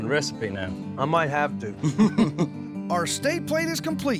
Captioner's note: both chuckle